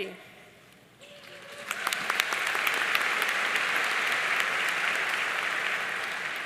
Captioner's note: audience cheering and applauding